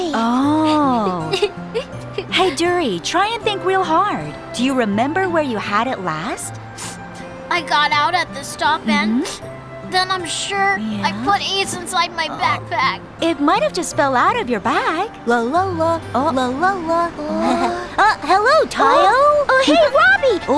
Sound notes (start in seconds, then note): 6.7 sniffles; 15.4 Robbie humming melody